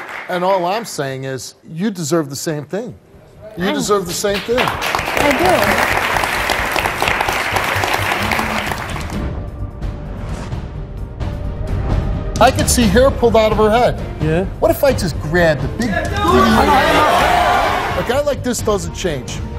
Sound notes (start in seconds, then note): 5.9 audience applauds; 9.3 dramatic music